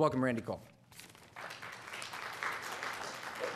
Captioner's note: applause